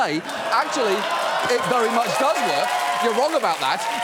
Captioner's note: studio audience cheers